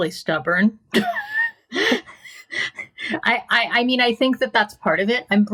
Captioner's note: laughing